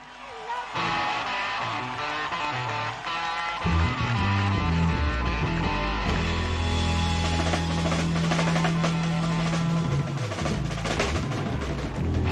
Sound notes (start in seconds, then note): 5.8 crowd cheering; 5.8 rock music